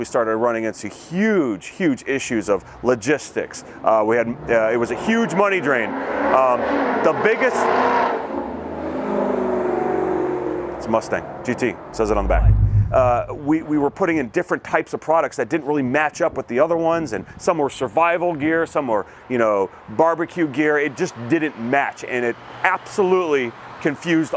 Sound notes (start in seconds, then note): 8.5 loud car